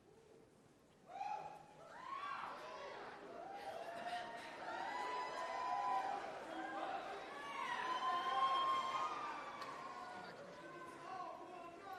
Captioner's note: cheering